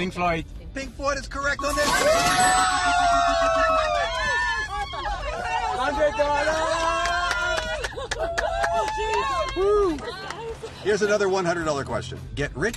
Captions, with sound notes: Okay, Pink Floyd. Pink Floyd is correct! [Cheering] $100! [Clapping & cheering] Woo! Here's another $100 question.